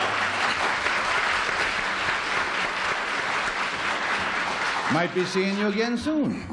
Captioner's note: applause